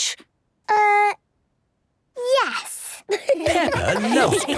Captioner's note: laughter